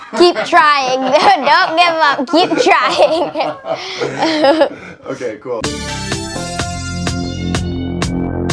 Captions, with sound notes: - Keep trying, don't give up! (producer laughing) (intense music)